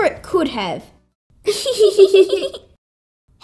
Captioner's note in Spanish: Riéndose